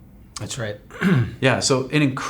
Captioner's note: clears throat